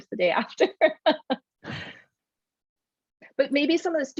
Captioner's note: laughs